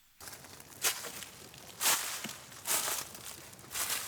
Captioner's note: leaves crunch